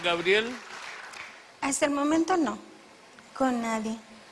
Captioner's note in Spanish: aplausos